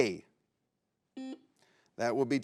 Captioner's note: buzzer beeps